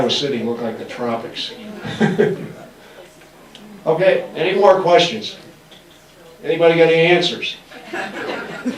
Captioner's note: laughs